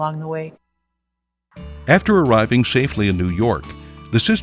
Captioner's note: voiceover